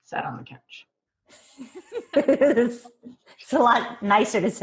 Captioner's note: laughing